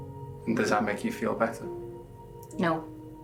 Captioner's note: none